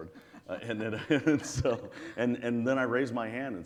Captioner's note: all laughs